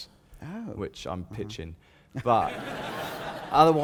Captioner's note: laughter